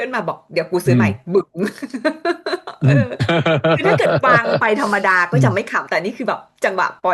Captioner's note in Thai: เสียงหัวเราะ